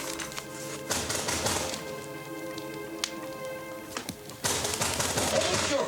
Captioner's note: banging on door